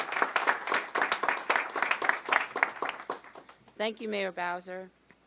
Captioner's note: applause